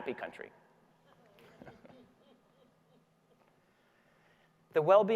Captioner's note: audience laughing